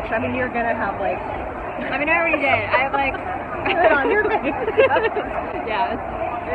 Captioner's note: laughing